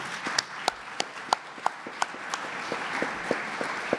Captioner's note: applause